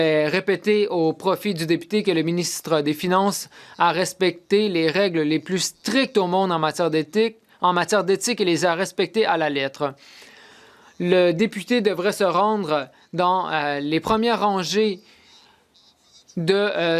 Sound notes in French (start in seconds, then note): 3.1 voix de l'interprète